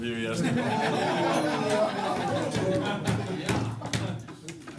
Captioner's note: laughter